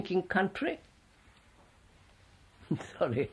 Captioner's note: laughs